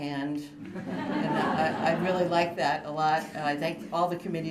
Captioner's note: laughter